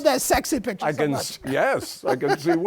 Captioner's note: laughs